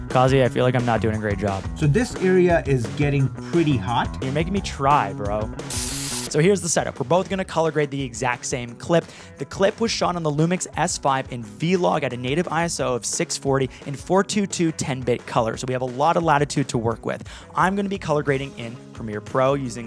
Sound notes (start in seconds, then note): 5.6 spraying noise